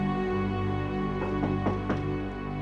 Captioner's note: knock on the door